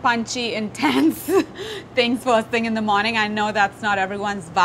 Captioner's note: laughs